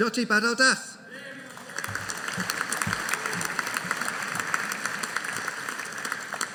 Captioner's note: audience applauding